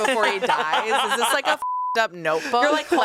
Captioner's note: beep